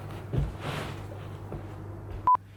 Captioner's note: beep